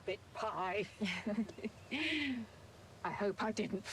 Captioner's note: laughing